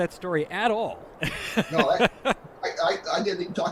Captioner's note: laughs